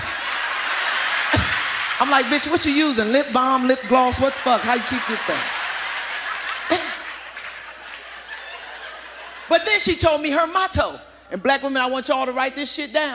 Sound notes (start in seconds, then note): 0.2 audience laughing and applauding; 5.0 audience laughing